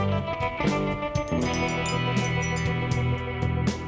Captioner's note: wind chimes jingle